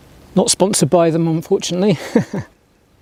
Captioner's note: laugh